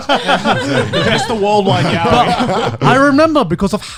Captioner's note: laughing